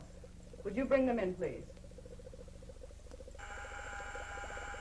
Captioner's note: intercom buzzes twice